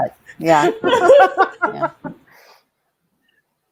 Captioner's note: laughs